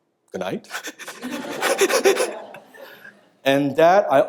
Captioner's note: chuckles